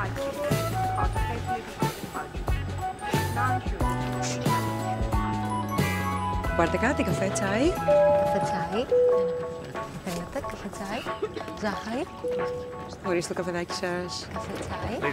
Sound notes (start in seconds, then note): 0.2 jacket rustles; 4.2 lips whooshing; 6.5 Vanina and passengers speaking foreign language; 7.9 airplane beeps; 10.4 Vanina and passengers speaking foreign language